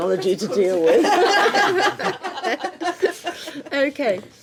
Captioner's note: laughing